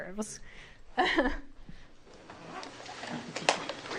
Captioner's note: laughs